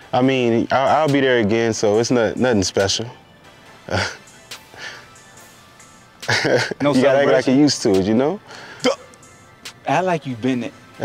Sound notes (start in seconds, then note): 4.2 chuckles